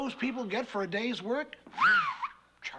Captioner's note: whistles